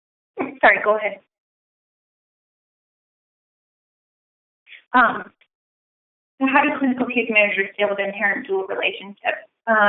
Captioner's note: silence